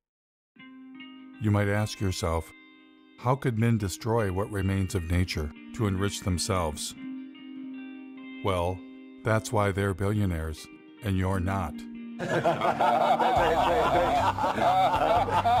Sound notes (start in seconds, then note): 12.2 Gülme